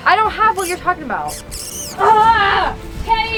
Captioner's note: toy squeaking